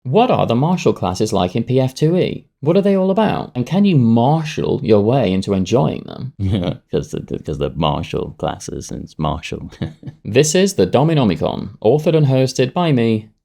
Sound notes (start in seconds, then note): 6.4 giggling